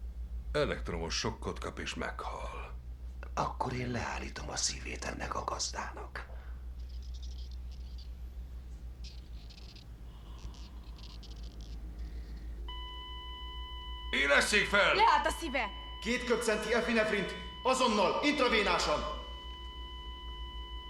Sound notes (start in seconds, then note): 8.0 quiet squealing continues; 12.9 high-Pitched tone